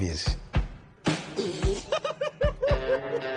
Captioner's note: both laughing